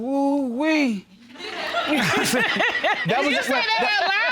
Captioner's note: all laughing